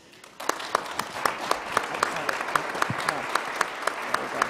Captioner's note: crowd applauding